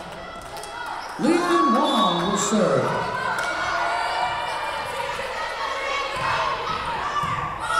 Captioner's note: whistle blowing